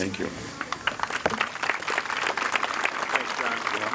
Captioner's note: applause